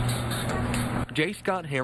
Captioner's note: nat: fridge opening